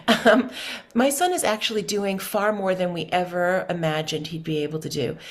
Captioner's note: laughs